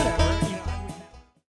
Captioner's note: voice fading out